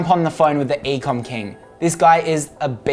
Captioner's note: bell ringing